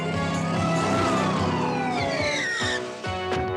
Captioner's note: siren